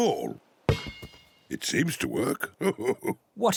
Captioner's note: laughs